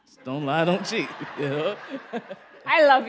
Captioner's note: laughter